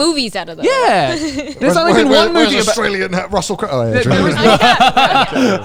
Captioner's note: laughing